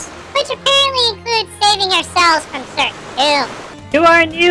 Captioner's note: sarcastically